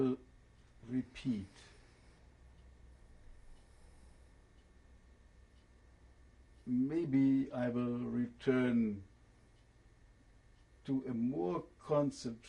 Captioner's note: pauses for 6 seconds